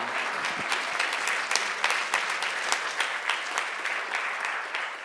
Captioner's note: audience applauds